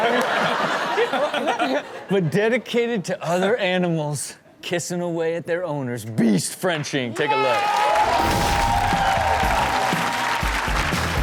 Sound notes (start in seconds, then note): 0.0 everyone laughs; 7.2 audience cheers